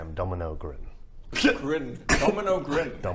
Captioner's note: laugh